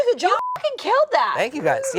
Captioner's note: beep